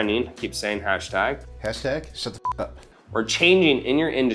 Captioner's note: beep